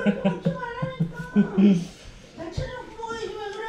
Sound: laughing

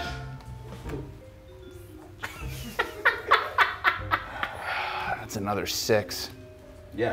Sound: laugh

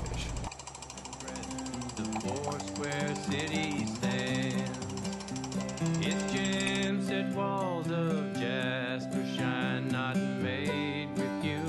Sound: jackhammer noise and music

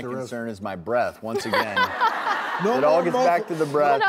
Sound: laughter

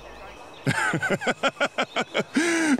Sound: laughing

